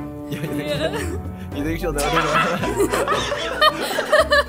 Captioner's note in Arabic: ضحكات درامية